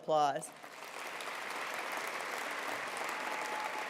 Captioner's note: applause